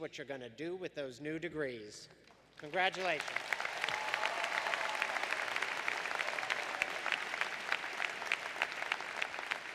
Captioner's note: applause